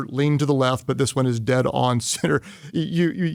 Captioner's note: chuckles